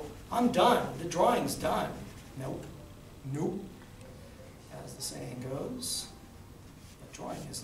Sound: sarcastic

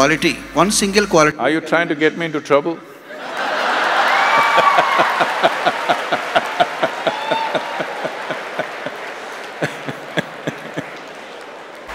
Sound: laughter/Applauds

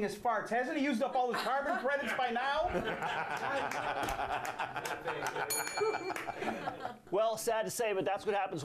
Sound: bell rings

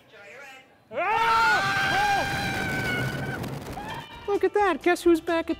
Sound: screaming

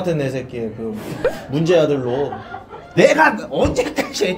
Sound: hahahahahahahahahahahahahahahahaha

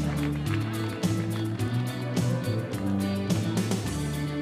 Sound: audience chattering

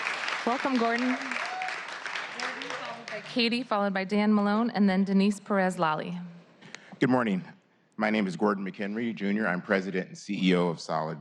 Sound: applause

